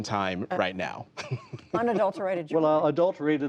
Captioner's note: laughter